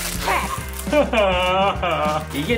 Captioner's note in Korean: 울음